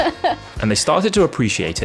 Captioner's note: laughs